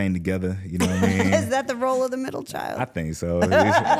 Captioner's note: laughs